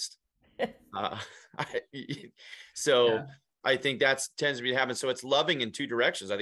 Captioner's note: chuckles